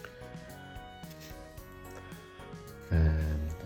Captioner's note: pen scratching